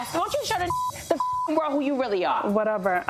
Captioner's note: beep